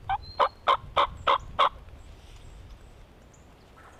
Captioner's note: turkey call